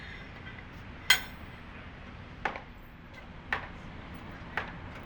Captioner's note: metal plates touching; hammering